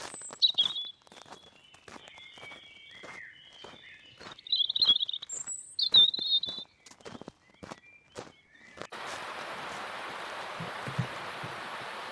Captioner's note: water rushing